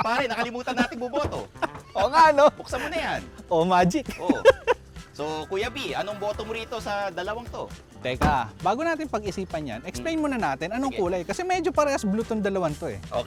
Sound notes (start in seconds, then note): 3.9 chuckles